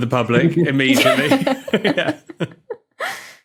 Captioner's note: both laugh